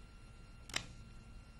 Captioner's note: lighter flicks